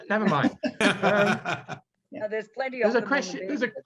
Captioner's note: laughing